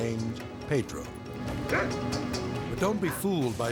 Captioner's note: barks